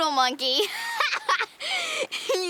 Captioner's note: laughing